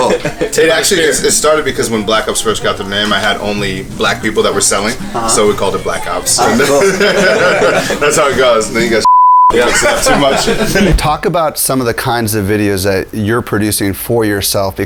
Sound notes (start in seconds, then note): 6.6 laughs; 9.0 beep; 9.5 laughs